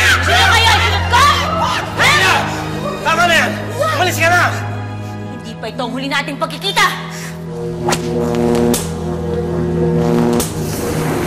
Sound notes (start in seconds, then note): 7.4 buzzing